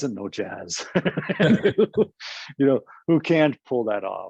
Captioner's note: laughs